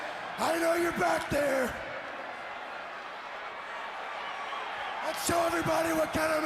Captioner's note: crowd chatter